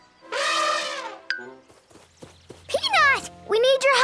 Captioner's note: elephant trumpets